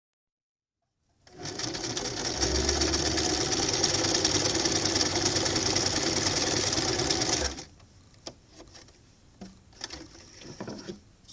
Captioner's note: sound of sewing machine followed by scissors cuttting